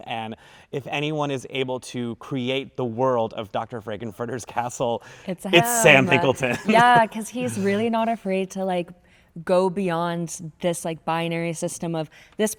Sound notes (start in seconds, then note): 5.5 laughs